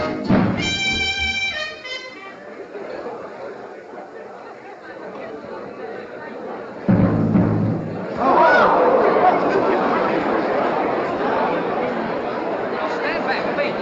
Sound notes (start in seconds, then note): 0.0 band stops playing; 8.4 crowd noise